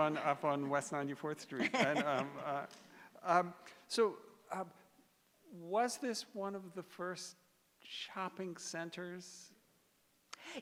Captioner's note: laughter